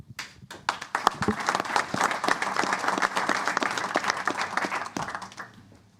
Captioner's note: applause